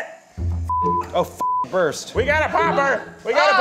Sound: beep

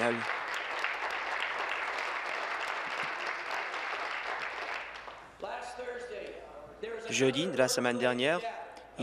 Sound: applause

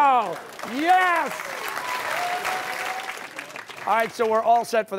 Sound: applause

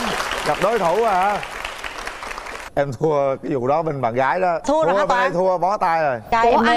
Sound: claps

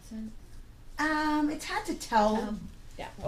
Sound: voiceover

